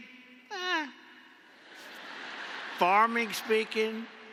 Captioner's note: laughter